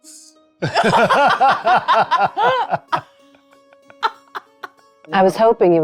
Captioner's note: laughing